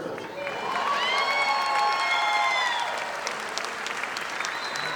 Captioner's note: audience applauding